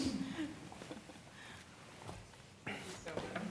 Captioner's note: laughter